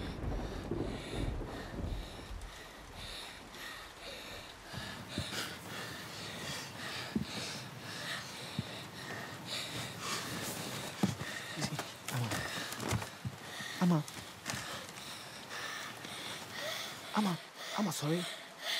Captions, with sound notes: [breathing heavily] Ama. Ama. [Esi breathing heavily] Ama. Ama, wake up.